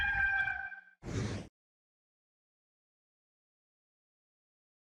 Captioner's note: gamecock crows; whooshing